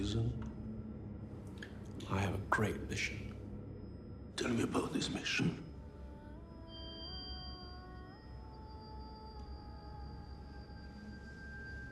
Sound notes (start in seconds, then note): 6.4 eerie music; 6.4 hitch-pitched ringing